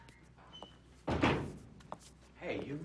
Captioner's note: door closing